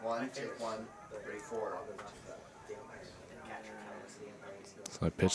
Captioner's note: chatter